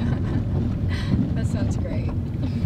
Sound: girlfriend laughing

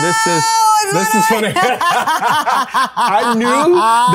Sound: both laugh

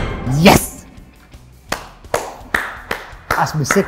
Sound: dramatic music; Dec clapping

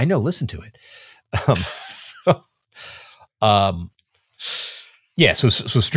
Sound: chuckling

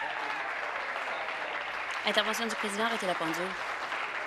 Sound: applause

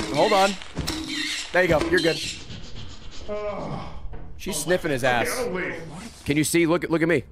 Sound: sniffing

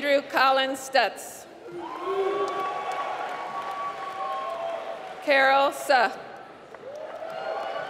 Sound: applause

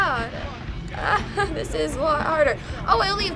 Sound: chuckles nervously

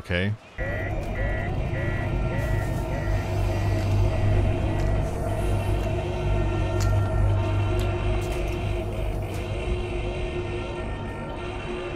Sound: alarm sirens, quiet hissing of doors and dripping sounds from somewhere nearby

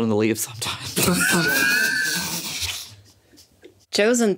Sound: everyone laughs

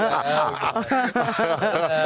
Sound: laughter

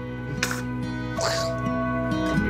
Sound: imitates sneezing; sneezes

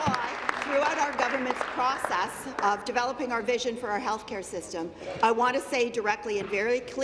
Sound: applause

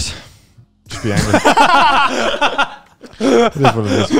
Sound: laugh

